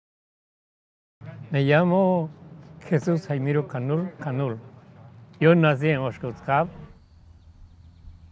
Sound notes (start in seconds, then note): 1.2 Spanish